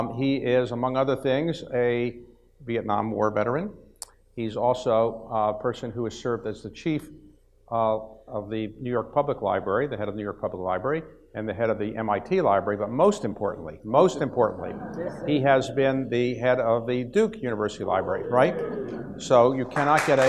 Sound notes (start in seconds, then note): 14.0 audience laughs; 17.5 audience murmurs